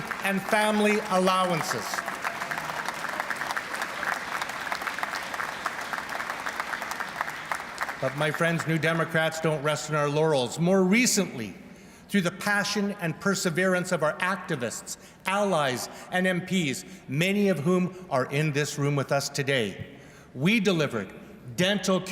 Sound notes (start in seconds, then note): 4.9 applause